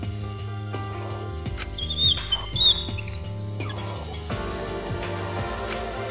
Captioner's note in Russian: Скрииип, скрииип